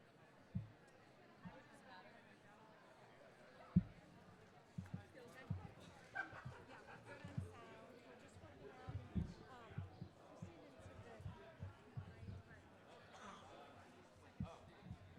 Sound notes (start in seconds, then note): 0.1 attendees chattering; 5.9 attendees laughing; 7.4 attendees chattering